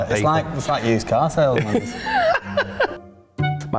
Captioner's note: laughs